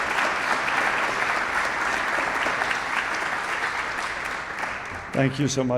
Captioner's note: audience applauding